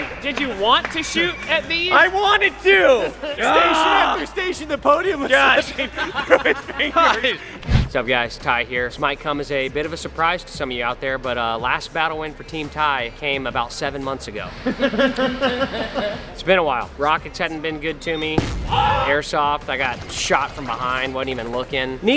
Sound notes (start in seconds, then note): 14.5 laughter; 18.4 explosion